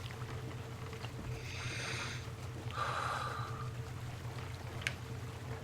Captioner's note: breathes deeply